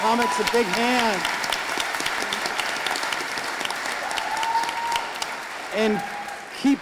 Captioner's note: audience applauding